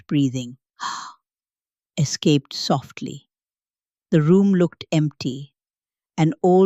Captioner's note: gasps